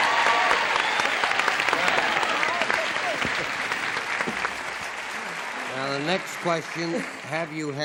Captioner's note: applause